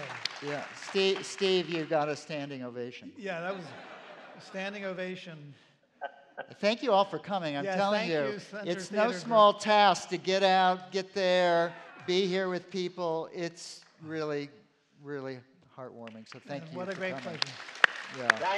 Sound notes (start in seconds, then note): 3.4 laughter; 6.1 laughter